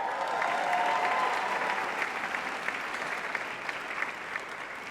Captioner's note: audience applauding